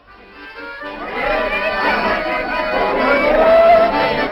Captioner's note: crowd talking and laughing